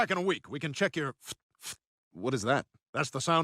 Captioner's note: Dr. Hartman makes puffing noises